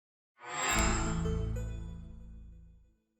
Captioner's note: chime